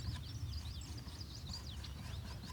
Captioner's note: none